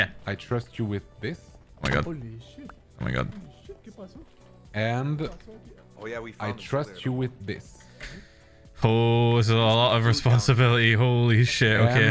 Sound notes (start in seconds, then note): 4.1 in Spanish